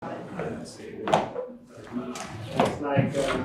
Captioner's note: chatter